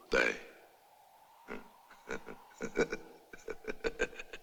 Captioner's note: chuckling